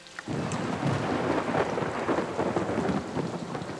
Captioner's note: rolling thunder